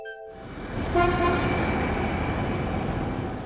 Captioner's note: truck horn